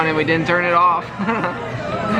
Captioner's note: chuckles